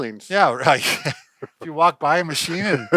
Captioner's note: laughs